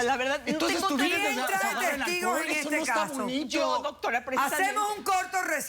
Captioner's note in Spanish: Hablan al unísono